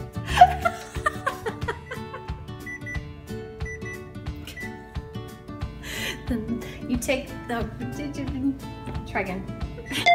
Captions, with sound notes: [laughs louder] [timer beeps] Then... You take... oh, jijibuh... try again.